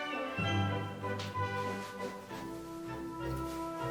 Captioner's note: fabric rustling